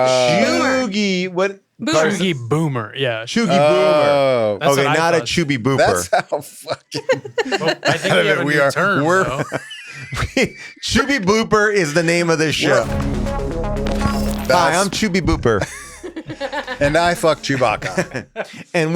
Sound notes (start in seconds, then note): 6.9 laughs; 9.3 people laugh; 12.6 techno music; 15.6 laughs